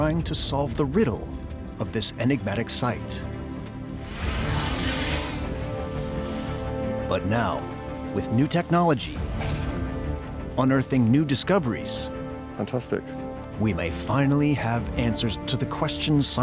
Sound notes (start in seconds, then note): 3.9 drone whirring